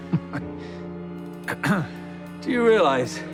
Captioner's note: clears throat